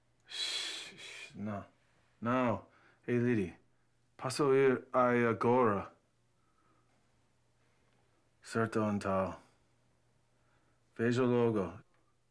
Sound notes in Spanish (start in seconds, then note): 4.4 hablando en portugués